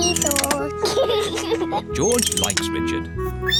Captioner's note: giggles